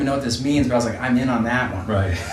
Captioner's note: laughs